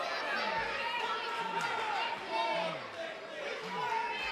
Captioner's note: crowd chatter